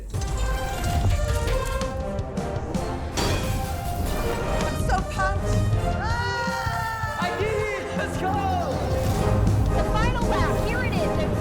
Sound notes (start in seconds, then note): 0.2 triumphant music; 6.0 screaming